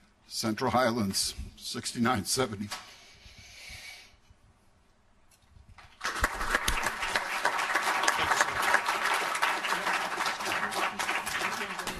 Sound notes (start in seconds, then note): 5.8 applauding